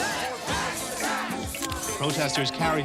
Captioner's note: chanting